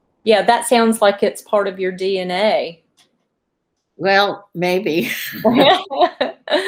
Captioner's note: laughter